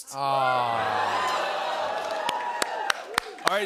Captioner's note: cheering